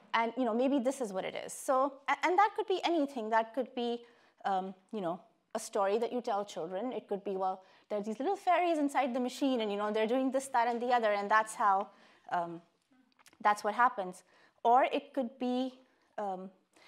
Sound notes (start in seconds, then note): none